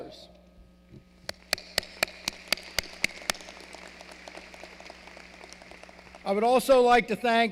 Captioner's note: applause